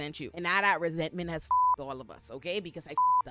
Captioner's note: beep